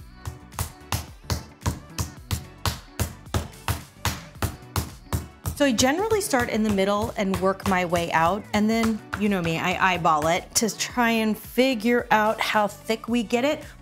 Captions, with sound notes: (mallet thudding) (soft music) So I generally start in the middle and work my way out. And then you know me, I eyeball it to try and figure out how thick we get it.